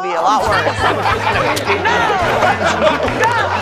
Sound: laughter

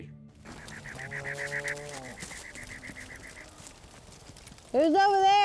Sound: night sounds

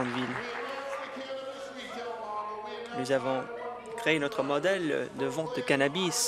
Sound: applause

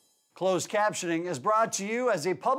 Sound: voiceover

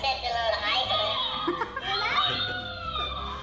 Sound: giggles

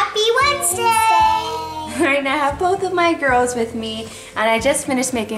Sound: chuckles

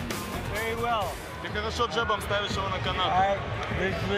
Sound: translator speaking foreign language

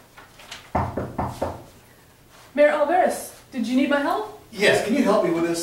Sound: knock on door

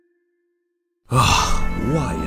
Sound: sighs

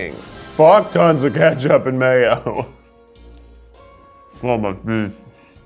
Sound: laughs

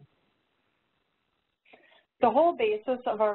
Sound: pause

